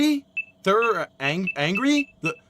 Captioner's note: beeps continue